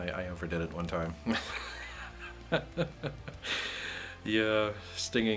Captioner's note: laughs